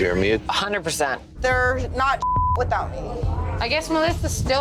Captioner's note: beep